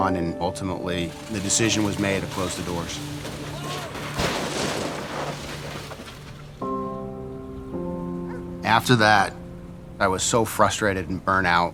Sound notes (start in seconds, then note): 3.9 crash